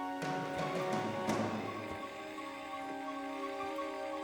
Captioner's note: static